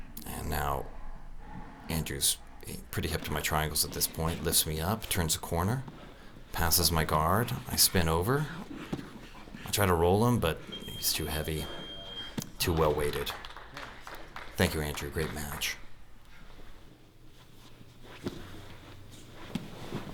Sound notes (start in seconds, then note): 11.7 beep